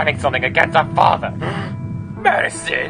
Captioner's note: gasp